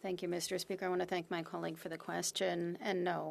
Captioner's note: speaking French